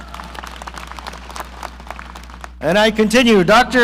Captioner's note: audience applauding